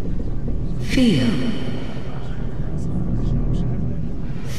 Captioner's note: motherly Voice